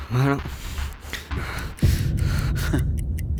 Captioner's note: the bomb is ticking